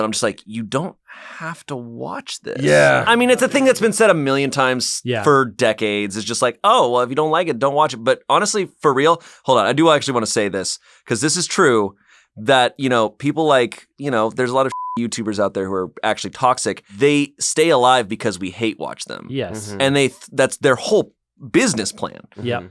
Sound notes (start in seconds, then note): 14.7 beep